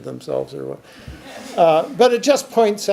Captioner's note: audience chuckles